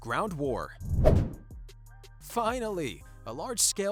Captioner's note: playful whoosh